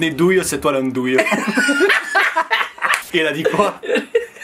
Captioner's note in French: rires